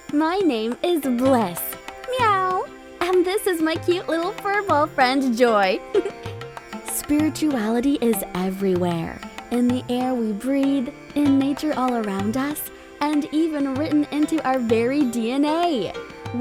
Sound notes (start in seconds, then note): 2.1 Joy meows; 5.8 giggles